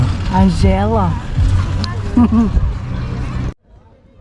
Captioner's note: laughter